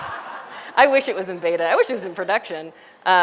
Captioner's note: laughter